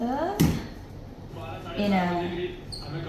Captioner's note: TV turns on belatedly